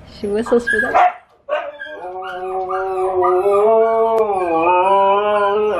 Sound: Memhpis howling

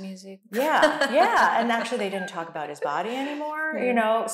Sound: laughing

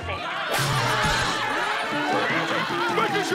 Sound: screaming

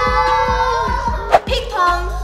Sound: all shouting

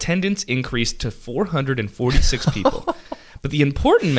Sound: co-host laughs

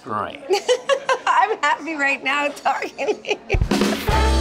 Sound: laughing; laughing

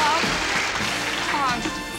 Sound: stammering

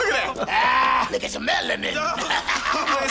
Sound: laughs

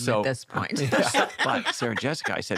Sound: laughter

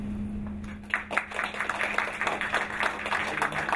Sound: applause

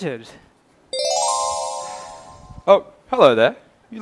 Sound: magic sound!

